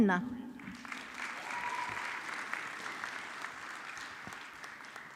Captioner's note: audience clapping